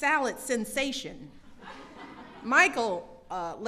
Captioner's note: laughter